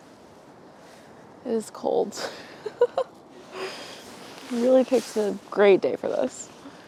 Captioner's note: laughing